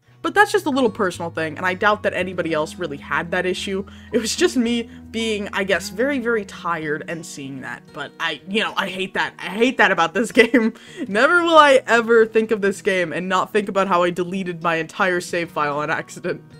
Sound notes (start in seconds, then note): 8.1 stammers; 10.7 laughs